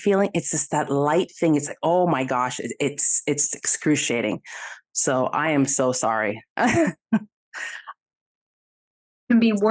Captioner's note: chuckle